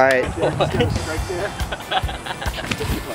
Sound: laughing

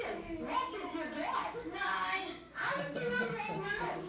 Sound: laughter

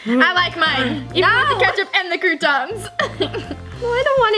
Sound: giggles

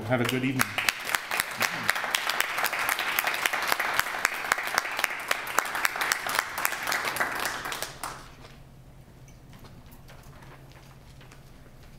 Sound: applause

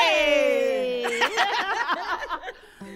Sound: laughing

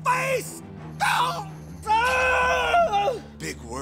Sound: screaming

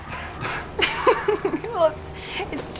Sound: laughs

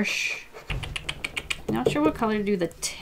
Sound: tutting

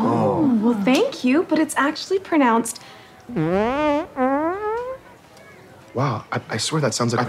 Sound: farts

